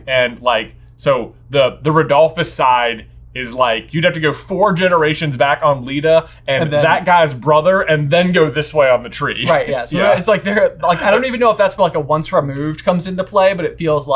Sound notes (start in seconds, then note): 9.4 laughing